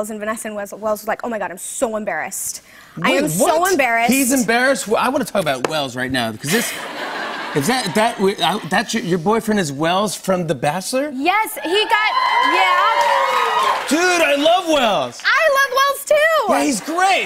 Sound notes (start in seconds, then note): 6.4 laughter; 11.6 cheers and applause